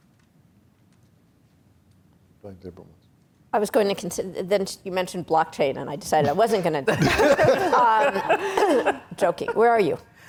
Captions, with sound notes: - I was going to, then you mentioned blockchain and I decided I wasn't gonna. (laughing) Joking. Where are you?